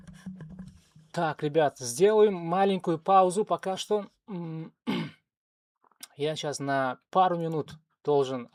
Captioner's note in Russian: откашливается